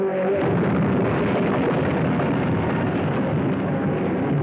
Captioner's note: cars crashing